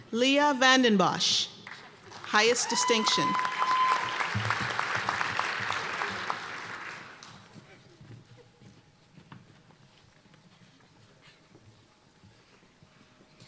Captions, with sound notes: Leah VanDenBosch, highest distinction. (applause and cheering)